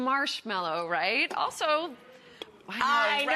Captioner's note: audience booing